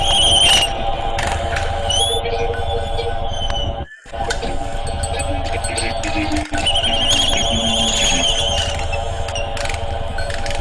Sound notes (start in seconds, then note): 5.7 dwarves chattering